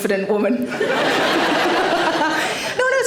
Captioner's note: audience laughing